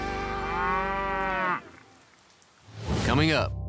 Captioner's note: mooing